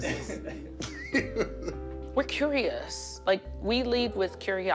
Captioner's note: giggles